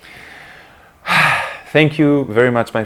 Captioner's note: sigh